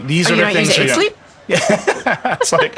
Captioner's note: laughing